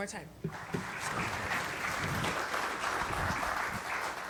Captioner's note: audience applauding